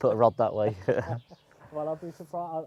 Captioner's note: both laugh